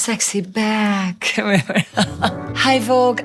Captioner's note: Gisele laughing